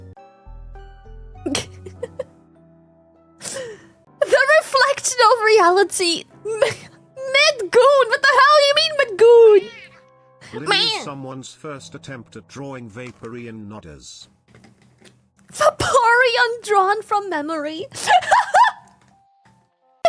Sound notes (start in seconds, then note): 1.5 laughs; 9.6 squawks; 17.9 laughs